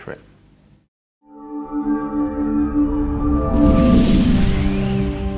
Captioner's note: electronic whoosh